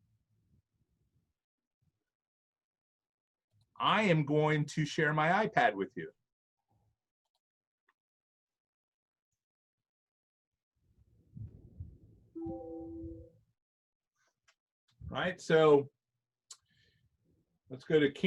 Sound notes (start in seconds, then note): 8.0 silence